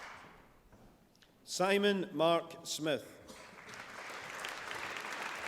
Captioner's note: applause